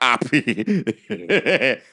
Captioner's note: laughs